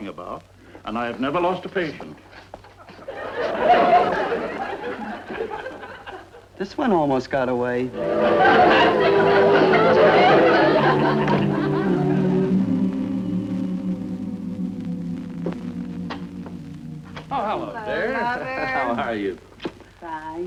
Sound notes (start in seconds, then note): 2.8 audience laughing; 7.9 audience laughing, cheerful music